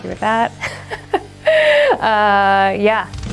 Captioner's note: laughs